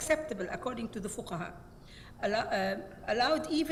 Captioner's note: speaks Arabic